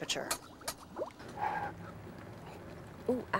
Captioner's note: blows